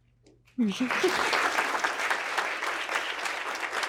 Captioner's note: applause